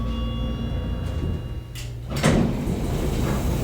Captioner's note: bell rings